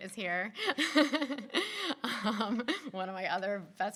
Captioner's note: laughing